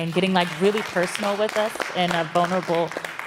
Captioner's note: applause